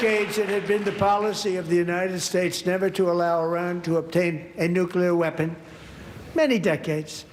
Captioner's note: applause